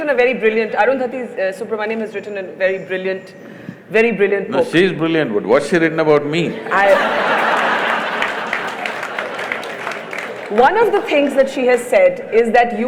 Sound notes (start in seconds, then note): 6.6 laughter/Applause